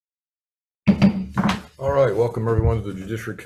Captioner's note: gavel banging